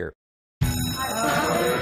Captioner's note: school bell